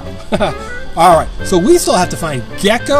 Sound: laughs

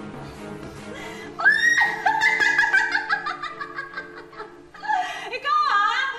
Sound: cackles

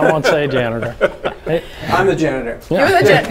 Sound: chuckling

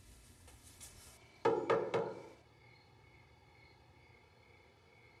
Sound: knocking at door

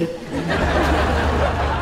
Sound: laughing

